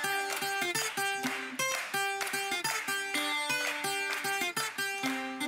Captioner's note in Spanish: aplausos